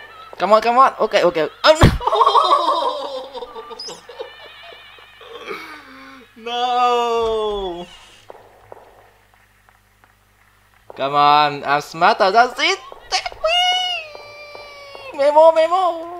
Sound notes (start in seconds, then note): 1.7 laughing